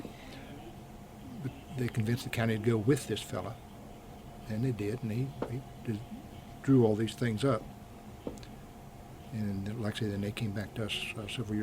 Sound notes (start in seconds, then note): none